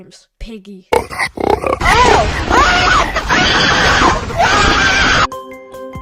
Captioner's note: pigs snort